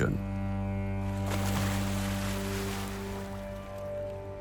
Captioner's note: anchor splashes